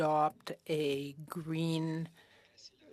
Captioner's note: speaking FRENCH